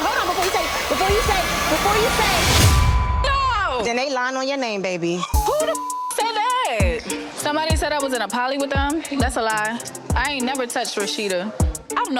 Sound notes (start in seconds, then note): 0.0 dramatic music; 2.6 beep; 5.4 beep